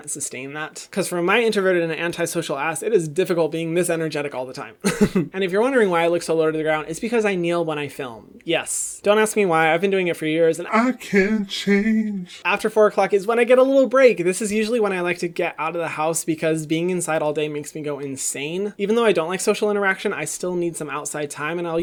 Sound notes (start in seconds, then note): 4.8 laughs